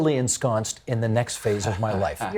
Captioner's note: laughing